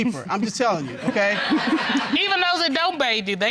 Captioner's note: audience laughing